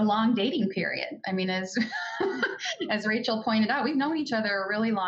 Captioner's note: laughs